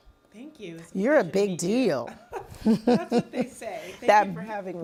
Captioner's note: laughs